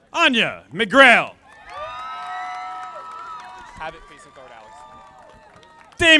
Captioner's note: audience applauding